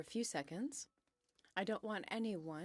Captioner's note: speaking in french